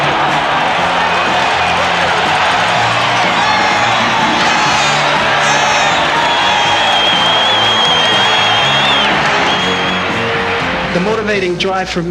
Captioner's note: applause